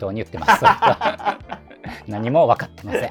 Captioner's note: laughing